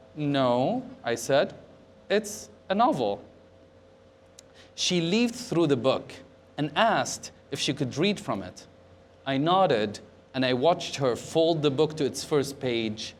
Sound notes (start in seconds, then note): none